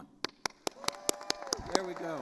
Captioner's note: attendees cheering and applauding